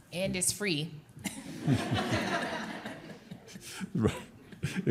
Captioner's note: laughter